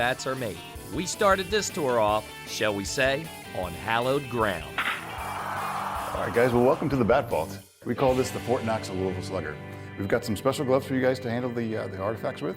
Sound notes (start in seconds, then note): 4.7 bat cracking; 4.8 crowd cheers